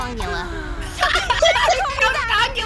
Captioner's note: laughter